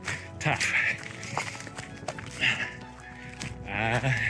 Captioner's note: panting